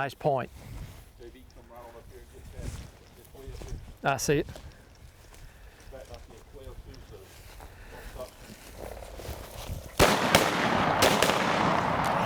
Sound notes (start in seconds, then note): 9.9 gun shots